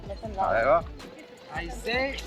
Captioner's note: man speaking in foreign language